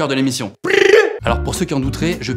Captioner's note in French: Étrange cri avec sa langue